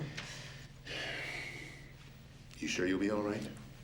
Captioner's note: sighing